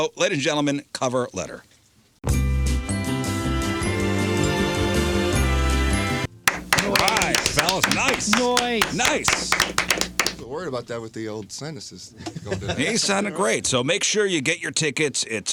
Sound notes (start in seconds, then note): 2.2 upbeat music; 6.4 clapping